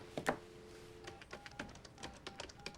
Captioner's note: dialing